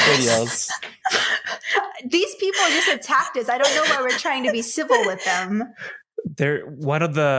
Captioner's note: laughter